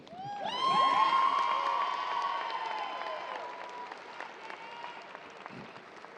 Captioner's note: audience cheering